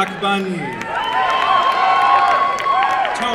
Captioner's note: applause and cheering